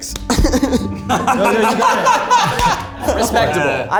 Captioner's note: group laughs